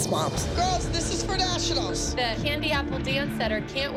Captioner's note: none